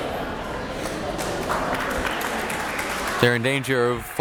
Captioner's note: crowd clapping